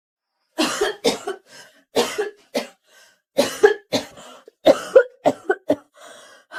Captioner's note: cough cough cough cough